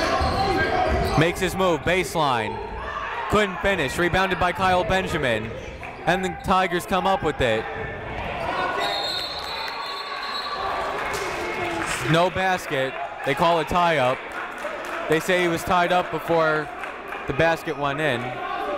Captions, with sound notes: Makes his move, baseline. Couldn't finish, rebounded by Kyle Benjamin. And the Tigers come up with it. (whistle blowing) (clapping) No basket. They call a tie up. They say he was tied up before the basket went in.